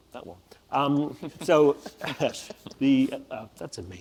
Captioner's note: panel laughs